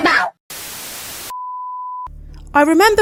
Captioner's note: static